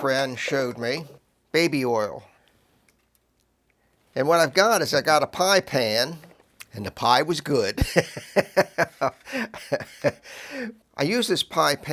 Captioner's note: laugher